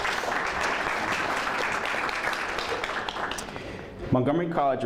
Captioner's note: applause